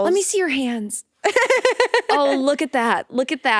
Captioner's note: laughing